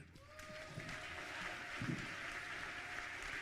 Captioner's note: clapping